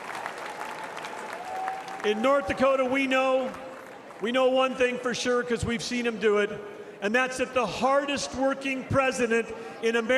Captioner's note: cheering and applause